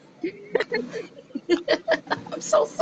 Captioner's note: laughter